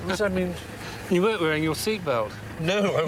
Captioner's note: laughs